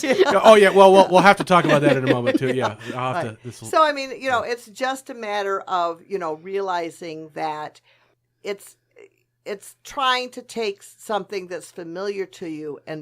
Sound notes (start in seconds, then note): 0.0 laughs; 0.0 all laugh